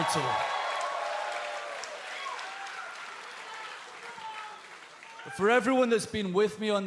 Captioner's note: cheers and applause